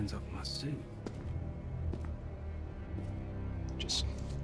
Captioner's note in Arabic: خطوات